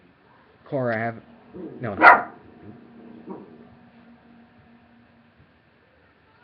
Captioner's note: dog Barking AGAIN!!!!!